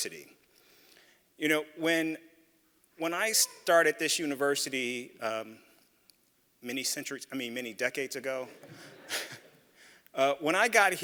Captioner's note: laugh